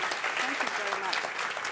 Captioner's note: applause